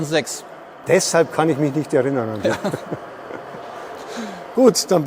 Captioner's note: laugh